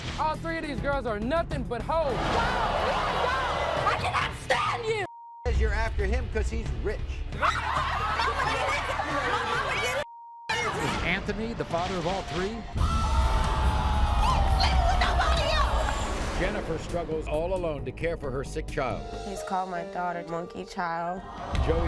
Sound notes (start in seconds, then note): 2.1 audience boos; 7.4 women clamoring